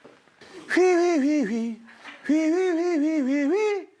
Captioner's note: humming